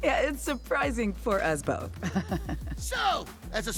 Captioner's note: laughs